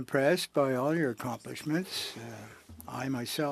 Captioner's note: speaking French